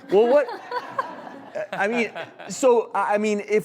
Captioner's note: audience laughs